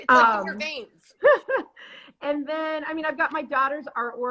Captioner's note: laughs